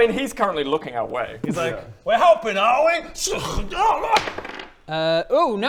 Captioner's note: tssunnk